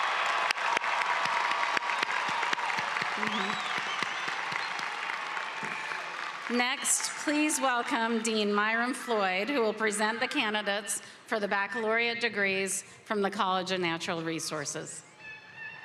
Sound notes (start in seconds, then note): 6.1 cheering and applause